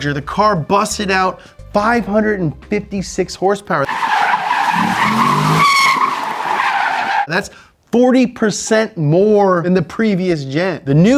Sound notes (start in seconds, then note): 3.8 tires screech; 4.6 engine revs